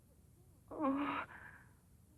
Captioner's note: groans